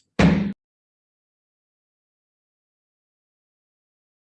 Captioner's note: gavel strikes